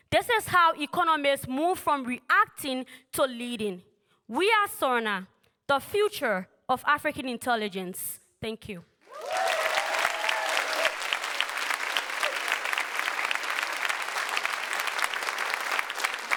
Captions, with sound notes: This is how economists move from reacting to leading. We are Surna, the future of African intelligence. Thank you. [Applause]